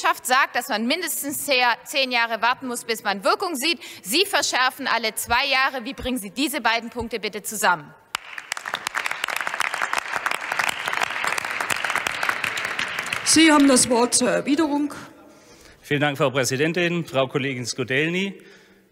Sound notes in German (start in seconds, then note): 8.1 Beifall bei der FDP und der AfD